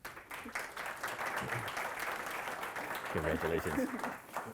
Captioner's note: audience applauding